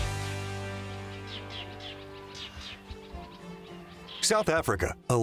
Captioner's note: birds chirping